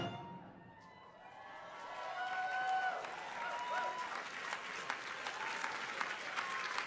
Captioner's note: crowd cheering